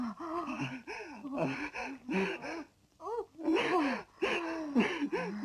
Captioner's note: sobbing